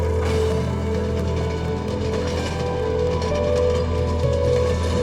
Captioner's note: train clanking